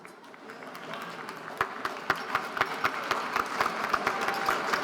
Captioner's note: audience applauding